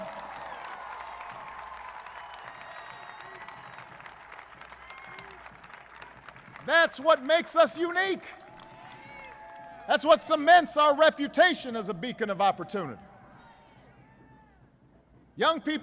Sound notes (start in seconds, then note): 3.6 applause